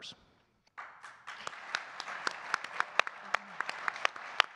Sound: all applauding

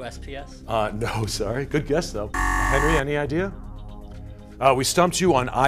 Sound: buzzer

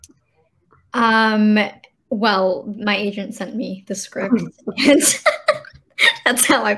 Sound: laughing

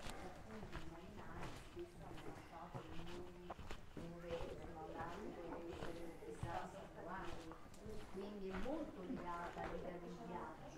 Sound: background chatter

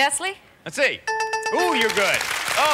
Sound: bell rings

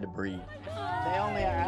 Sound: crowd oohs and ahhs

